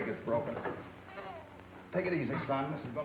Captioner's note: Joey whimpering